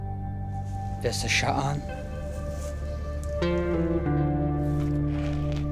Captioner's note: speaking foreign language